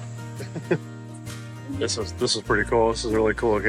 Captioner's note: chuckling